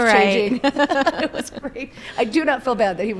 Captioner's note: people laughing